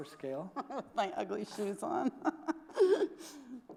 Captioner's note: laughs